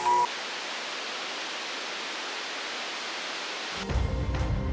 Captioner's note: static crackles; tense music